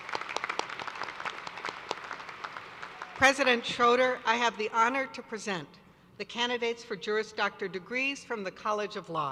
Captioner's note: applause